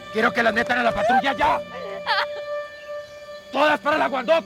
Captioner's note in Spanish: Sollozo